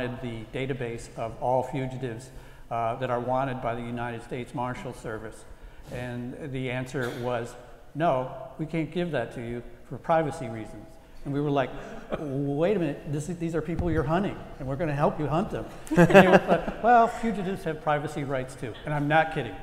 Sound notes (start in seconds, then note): 15.8 laugh